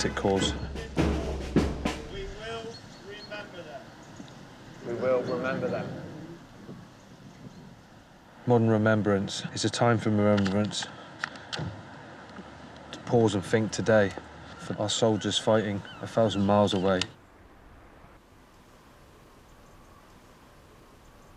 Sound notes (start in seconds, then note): 4.8 crowd